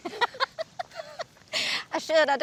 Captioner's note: laughs